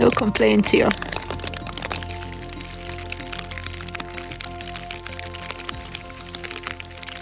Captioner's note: more rain on the tent